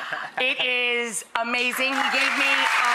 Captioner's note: crowd cheers